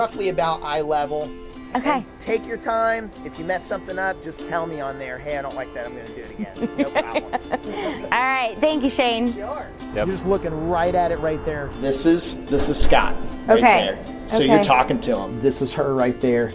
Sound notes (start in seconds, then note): 6.3 woman laughing